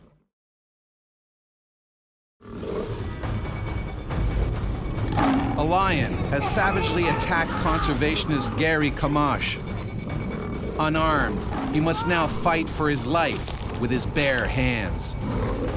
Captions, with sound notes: (growling) (suspenseful music) - [Voiceover] A lion has savagely attacked conservationist Gerrie Camacho. Unarmed, he must now fight for his life with his bare hands.